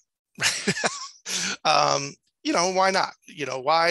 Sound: laughs

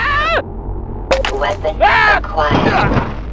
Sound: blip

